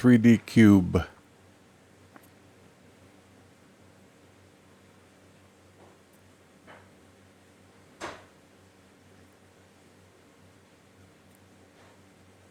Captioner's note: silence